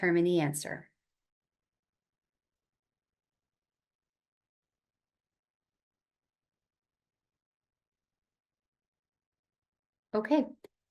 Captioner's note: silence